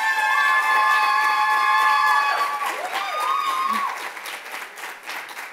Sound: loud cheers and applause

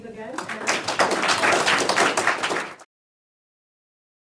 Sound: audience applauding

